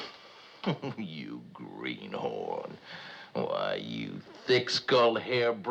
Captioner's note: chuckles